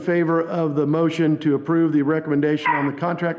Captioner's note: dog barking